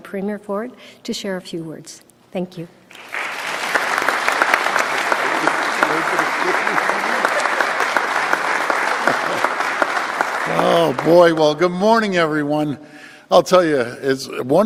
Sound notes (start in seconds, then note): 4.6 applause